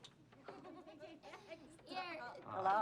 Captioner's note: laughter